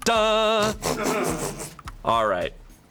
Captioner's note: crew members snickering and laughing